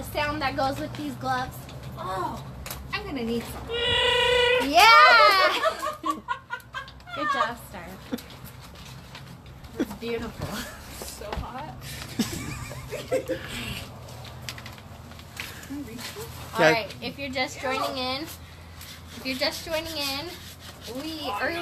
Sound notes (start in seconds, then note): 4.0 wookie noise; 5.0 laughs; 11.8 women laughing